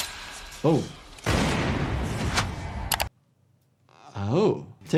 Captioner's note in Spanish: golpes de escopeta